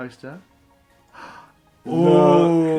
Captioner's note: gasps